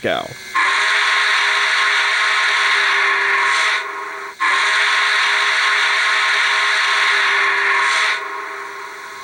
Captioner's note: whistle